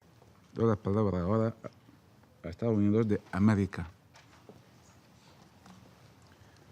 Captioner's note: in Spanish